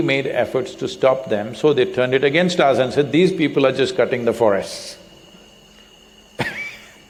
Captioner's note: laughs